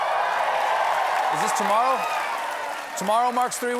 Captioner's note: cheers and applause